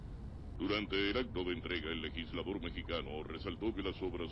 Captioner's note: radio